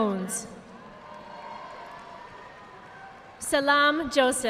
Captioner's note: audience applauding